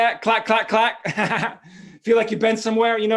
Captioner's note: laughs